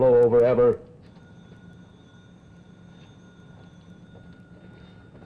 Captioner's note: telephone ringing